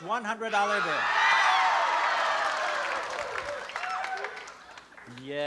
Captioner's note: applause and cheering